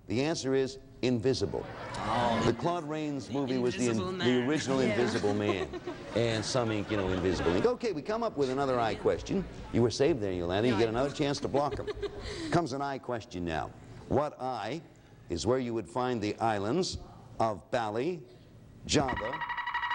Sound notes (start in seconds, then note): 19.0 alarms sounds